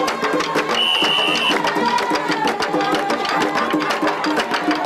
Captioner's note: whistle blowing